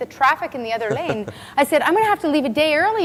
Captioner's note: laughs